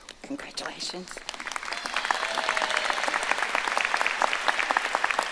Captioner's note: audience applauding